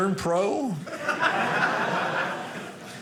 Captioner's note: audience laughing